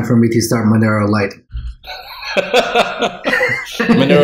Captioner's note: chuckles